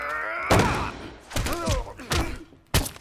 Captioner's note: bang; pounding